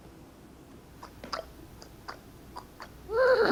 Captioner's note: hooves clopping; horse whinnying